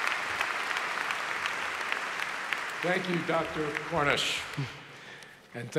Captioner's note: applause